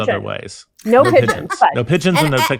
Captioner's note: chuckling